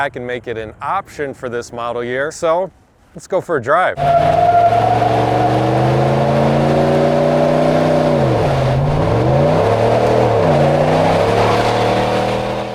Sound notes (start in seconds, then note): 4.0 car engine roaring; 4.0 tires screeching